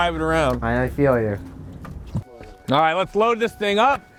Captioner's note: car beeping